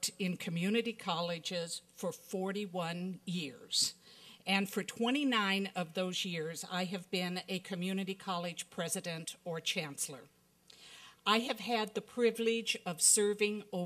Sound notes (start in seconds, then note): none